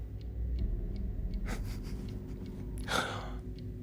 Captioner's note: soft chuckles, gasps